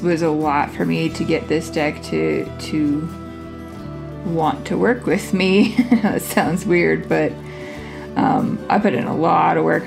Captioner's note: laugh